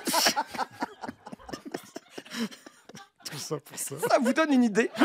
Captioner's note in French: rires